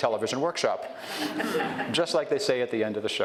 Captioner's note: audience chuckles